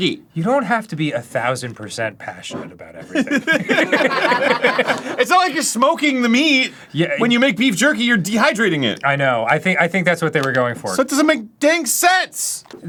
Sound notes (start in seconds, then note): 2.9 laughing